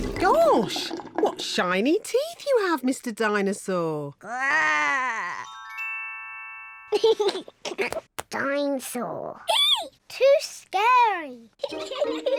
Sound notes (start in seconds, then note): 0.0 bubbles; 7.0 giggles; 11.6 both giggle